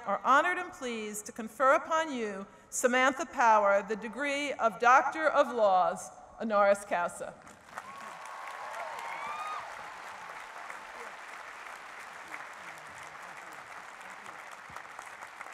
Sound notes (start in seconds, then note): 7.5 cheering and applause; 11.6 speech drowned out by applause